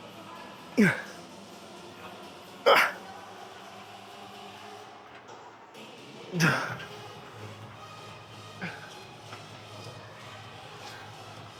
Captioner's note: grunting